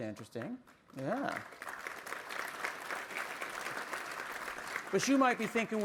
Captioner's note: applause